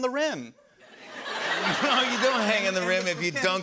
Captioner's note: laughter